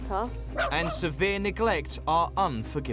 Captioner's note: dog barking